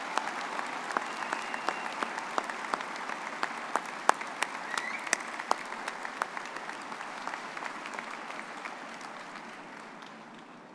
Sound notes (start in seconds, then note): 0.6 all applauding; 4.7 audience member whistles; 7.1 all applauding continues